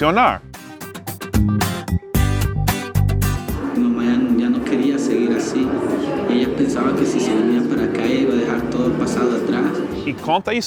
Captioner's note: spanish